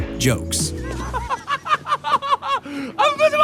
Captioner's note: laughing